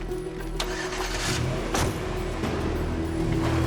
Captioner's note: engine starts